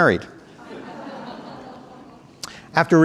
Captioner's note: audience laughing